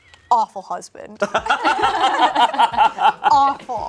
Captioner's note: group laughs